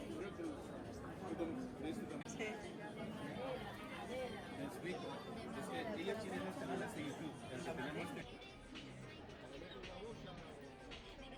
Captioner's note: people chattering